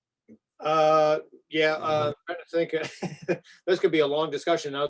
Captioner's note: laughs